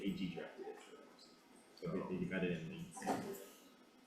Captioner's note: members chattering